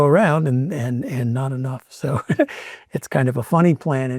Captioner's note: laughs